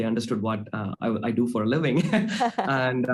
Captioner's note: chuckling